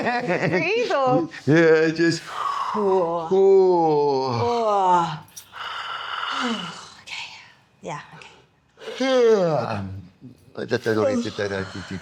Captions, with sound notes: (laughing) Yeah, just. (exhaling) (exhaling) (exhaling) Okay, yeah, okay. (exhaling) (speaking foreign language)